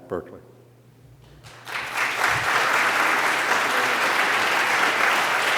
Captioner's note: applause